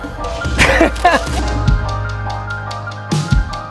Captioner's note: laughs